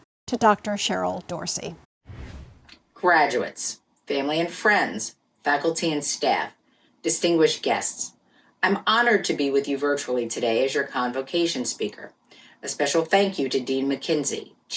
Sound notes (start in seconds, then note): 2.1 air whooshing